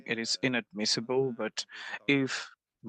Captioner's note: speaking French